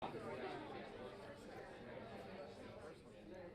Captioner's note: crowd chattering